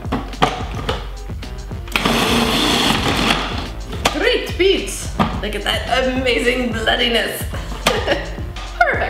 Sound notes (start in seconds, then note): 1.9 machine grating; 7.6 laughing